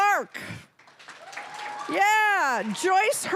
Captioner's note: cheering, applause